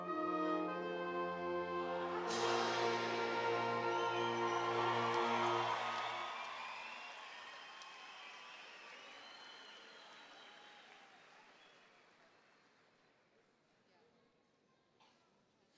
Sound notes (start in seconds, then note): 3.8 audience cheering and applauding